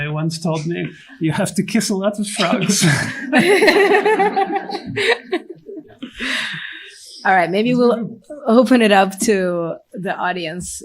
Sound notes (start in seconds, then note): 2.4 laughter